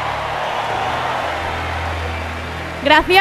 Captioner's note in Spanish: Gritos